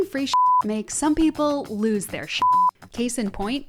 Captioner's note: beep; beep